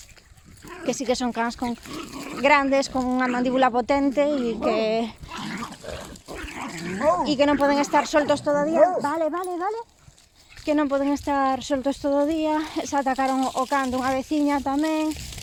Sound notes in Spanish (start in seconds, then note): 4.5 ruido de los perros gruñéndose y jugando